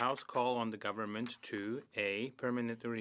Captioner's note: speaking French